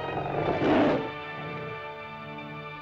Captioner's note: dramatic music; lizard snarls; dramatic music